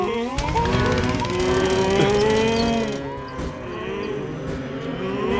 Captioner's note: panicked mooing